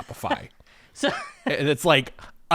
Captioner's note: laughs